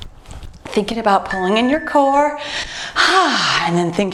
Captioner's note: timer beeps